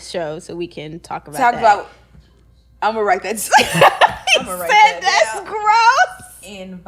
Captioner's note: laughing